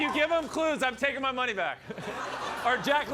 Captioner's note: laughter